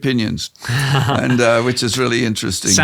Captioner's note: laughs